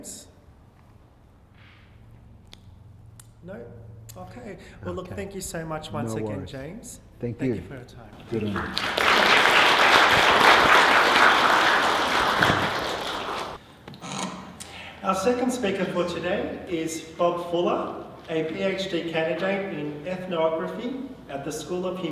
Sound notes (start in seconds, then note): 8.2 applause